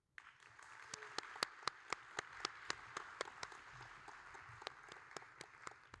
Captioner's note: audience and applauding